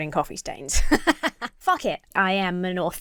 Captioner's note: laughs